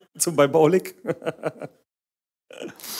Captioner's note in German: Lachen